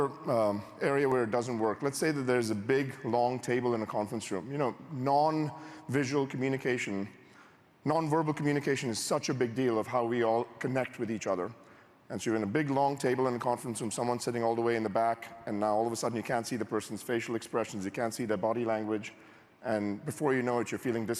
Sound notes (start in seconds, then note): none